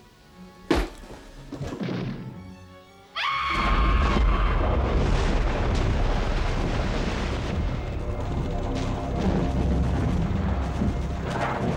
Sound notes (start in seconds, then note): 0.6 bat thuds; 3.1 woman screams; 4.9 water splashes; 8.7 explosion booms